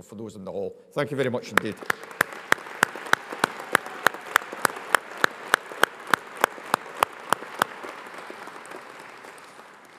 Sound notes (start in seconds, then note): 1.5 audience applauds; 1.7 audience cheers